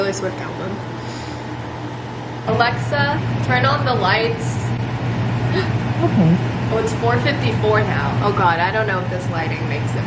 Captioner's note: gasp